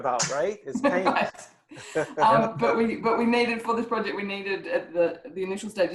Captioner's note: laughs